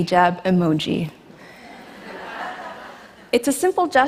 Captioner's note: laughter